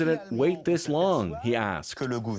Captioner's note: speaking French